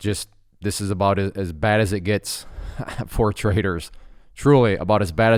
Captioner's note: chuckles